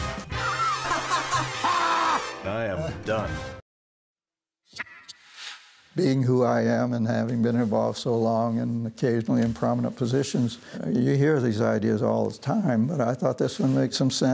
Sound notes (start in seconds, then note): 0.0 ballroom jazz; 0.4 laughing